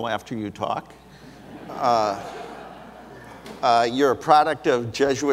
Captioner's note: audience laughs